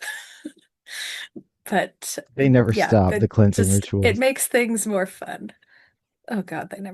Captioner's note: laughing